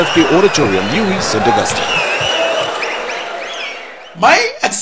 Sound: wild applause and cheering for 22 seconds

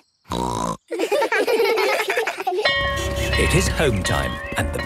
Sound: laughter; bell clanging

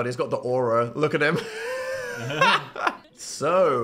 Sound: laughs

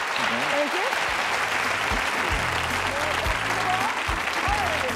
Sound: audience applauding

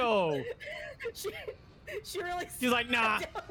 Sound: wheezing; laughing

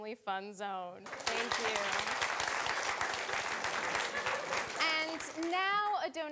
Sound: audience applauding

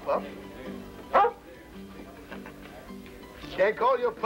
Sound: Shep barks

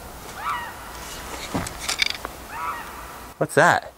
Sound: high pitched screams

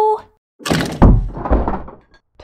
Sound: slam!

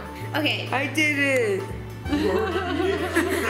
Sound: laughter

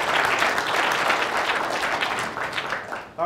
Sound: applause

